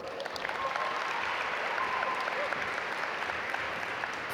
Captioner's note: audience applaud